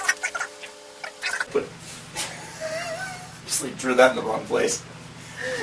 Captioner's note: laughter